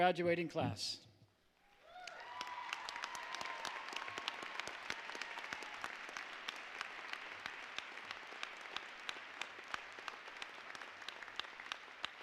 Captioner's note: applause